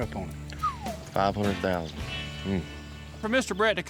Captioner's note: whistles